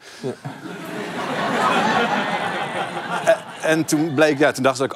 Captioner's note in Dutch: gelach